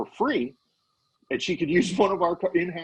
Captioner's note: laughing